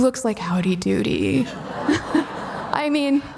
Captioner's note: audience laughing